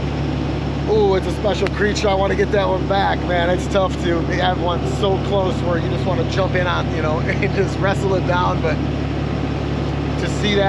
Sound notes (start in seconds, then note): 7.2 chuckling